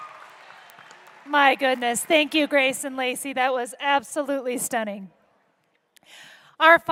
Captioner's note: cheers and applause